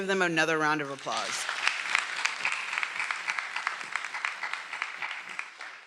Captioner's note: everyone applauding